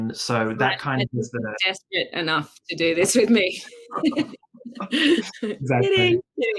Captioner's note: laughs